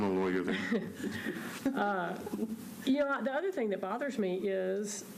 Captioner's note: laughter